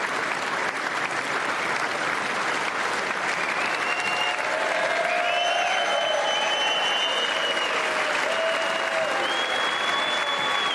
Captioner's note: applause